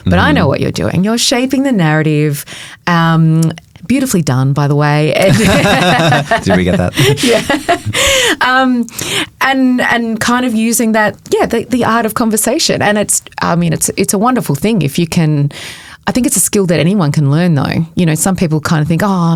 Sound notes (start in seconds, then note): 5.2 both chuckling; 8.2 chuckling